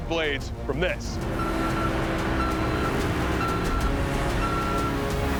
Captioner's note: truck beeping